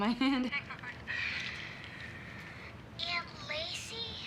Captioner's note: laughs